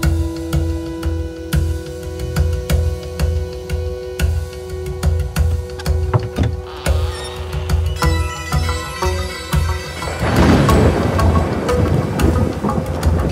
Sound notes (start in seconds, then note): 5.7 almirah opening; 10.0 rain & thunders